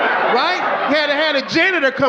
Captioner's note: audience laughing